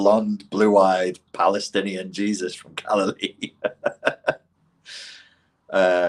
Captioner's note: laughs